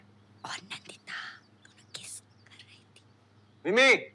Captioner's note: Whispering